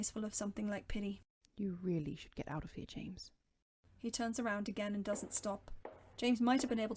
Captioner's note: background Footsteps